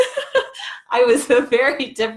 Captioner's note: laughing